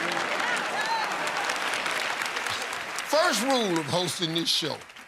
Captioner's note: cheers and applause